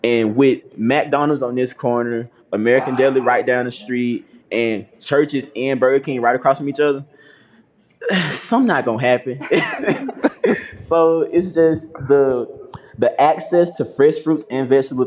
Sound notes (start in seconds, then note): 9.4 laughter